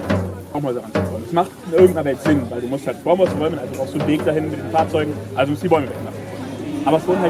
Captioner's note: guy speaking in German